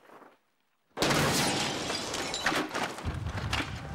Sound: crash

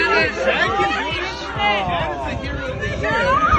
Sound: people exclaiming

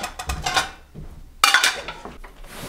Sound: dishes clang

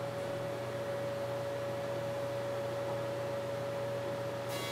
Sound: joiner motor running

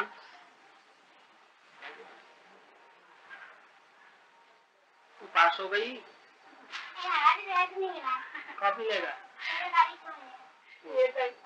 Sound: Hindi

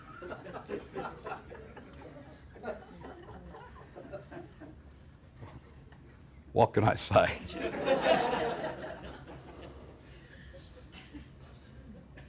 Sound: laughter

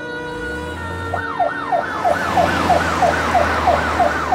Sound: ambulance siren wails

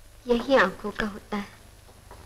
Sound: none

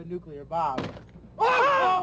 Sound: wall cracking; screaming

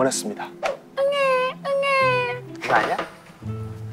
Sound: crying

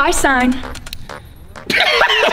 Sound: pen clicking; Harlem Globetrotters laughing

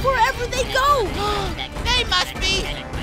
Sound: gasping

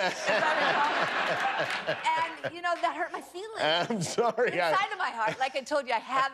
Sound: laughter

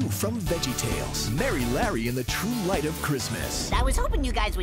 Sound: narrator reading

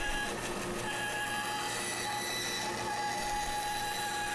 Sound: saw buzzing

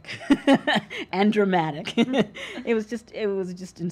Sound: laughs

